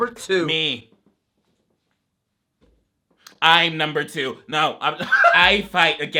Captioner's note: laughs